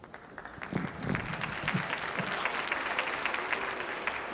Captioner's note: audience applauding